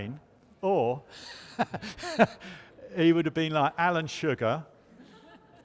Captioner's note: chuckles